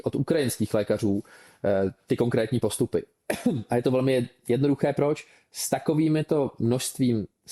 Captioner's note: clears throat